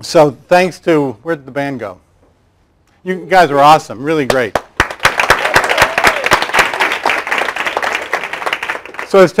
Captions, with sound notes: So thanks to, where'd the band go? You guys were awesome, really great. (claps and applause)